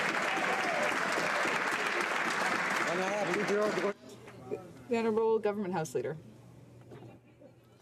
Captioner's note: some Applause